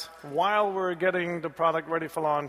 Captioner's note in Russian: none